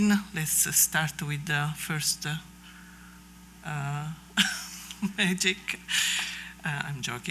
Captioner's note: laughs